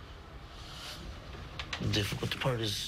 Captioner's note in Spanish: habla en ingés